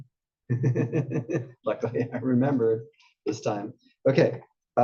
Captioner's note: laugh